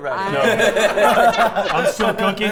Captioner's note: players laughing